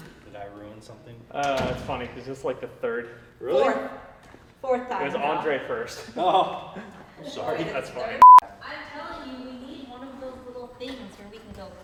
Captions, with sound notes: Did I ruin something? It's funny, 'cause it's like the third- Really? Fourth, fourth time. It was Andre first. Oh, sorry. (beep) I'm telling you, we need one of those little things where we can go-